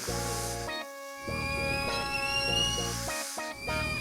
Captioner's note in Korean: 삐익